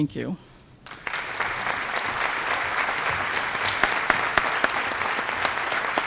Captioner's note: applause